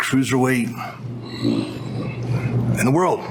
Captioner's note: growls